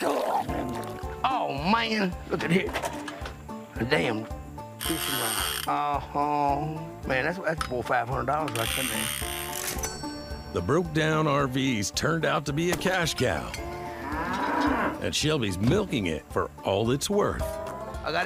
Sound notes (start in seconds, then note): 9.6 cash register sound; 13.6 cow mooing